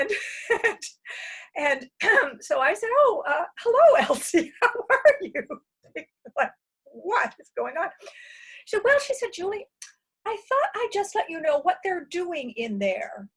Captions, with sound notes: And so I said, "Oh hello, Elsie. How are you?" [laughs] What is going on? Well, she said, "Julie, I thought I'd just let you know what they're doing in there."